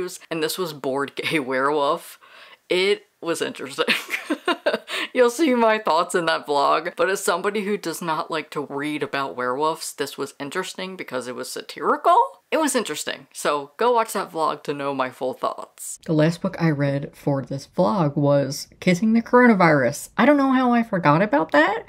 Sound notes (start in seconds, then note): 4.0 laughs